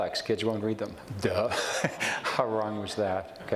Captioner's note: chuckles